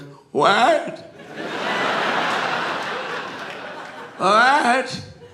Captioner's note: audience laughing